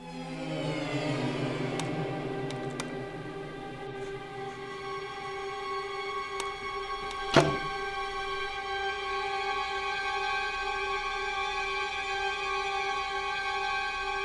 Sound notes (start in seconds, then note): 0.3 dramatic music; 6.3 light switching off; 8.5 dramatic music